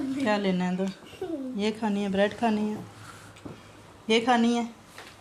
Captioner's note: speaking in foreign language